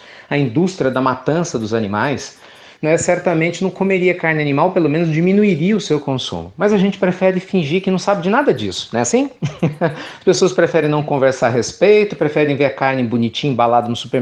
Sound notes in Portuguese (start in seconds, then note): 9.4 Risos